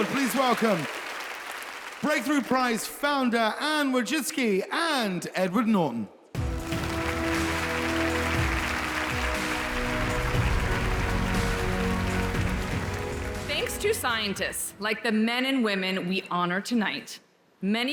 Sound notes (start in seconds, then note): 6.3 wondrous music; 6.4 audience applauds